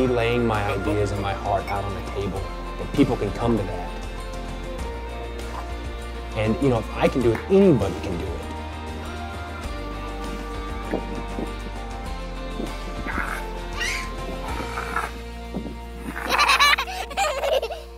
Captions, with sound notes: Me laying my ideas and my heart out on the table that people can come to that. And you know, I can do it, anybody can do it. (girl squealing)